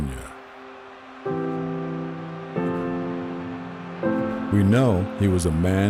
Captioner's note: crowd cheering; gentle music